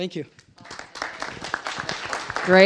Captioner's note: applause